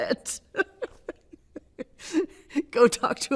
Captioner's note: laughing